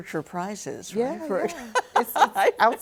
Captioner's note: laughing